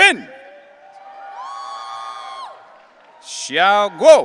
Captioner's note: audience cheering